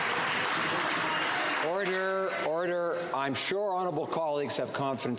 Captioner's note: some Applause